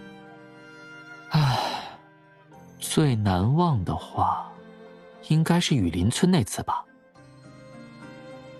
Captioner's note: sigh